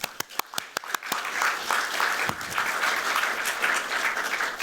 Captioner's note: applause